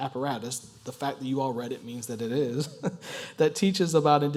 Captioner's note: laugh